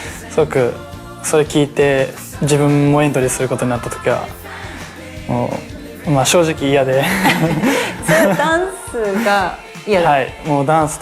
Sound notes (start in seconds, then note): 6.8 laughs